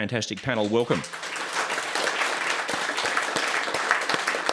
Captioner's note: audience clapping